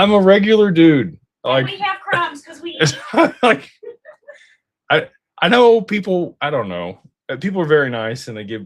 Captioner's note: laughter